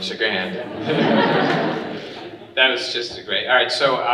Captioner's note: audience laughing